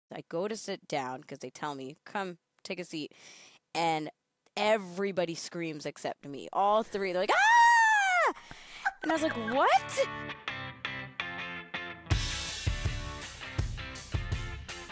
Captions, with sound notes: - I go to sit down 'cause they tell me, "Come, take a seat." And everybody screams except me, all three. They're like (screaming), And I was like, "What?" (upbeat music)